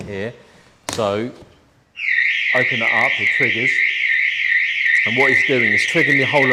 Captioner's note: alarm goes off